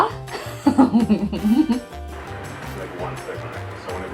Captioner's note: laughing